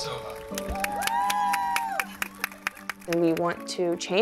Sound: crowd

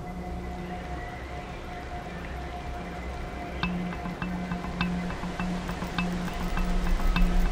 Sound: birds twittering; rain pattering; dramatic music

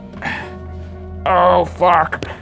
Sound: grunting

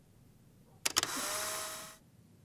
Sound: camera shutter

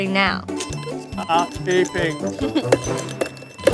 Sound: beeping; giggles

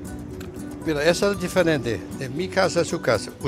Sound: speaking spanish

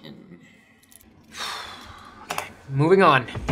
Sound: sighs

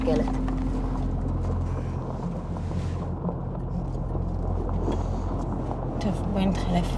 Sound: rocks crunching

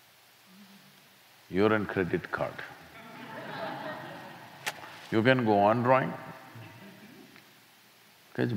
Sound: laughter

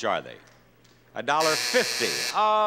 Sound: buzzer sounds

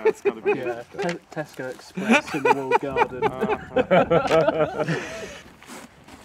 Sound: laughter

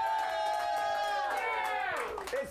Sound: audience cheering

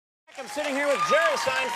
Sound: audience cheers and applauds

